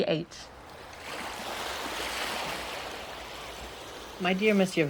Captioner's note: waves lapping on the beach